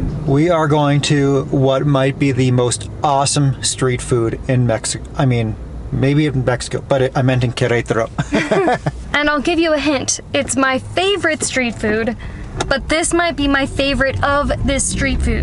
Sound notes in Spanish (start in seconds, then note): 8.2 Risas